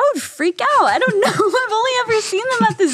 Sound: both laughing

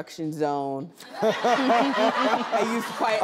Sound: audience laughing

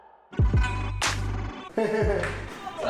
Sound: laughs

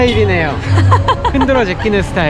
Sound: laughs

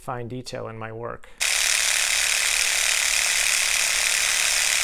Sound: whirs

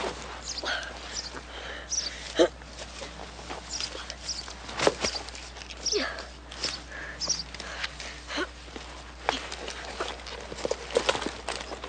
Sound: birds chirping; someone breathing hard

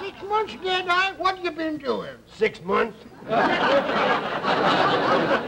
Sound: audience laughter

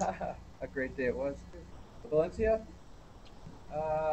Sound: laughs

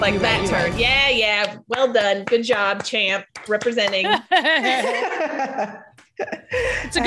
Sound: laugh

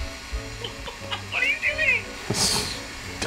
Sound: laughing

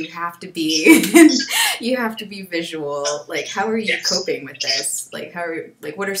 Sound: laughs

